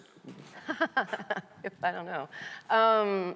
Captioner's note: laughs